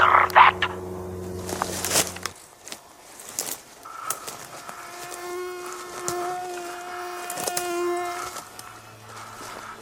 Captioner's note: forest atmosphere & heavy breathing, a mosquito buzzes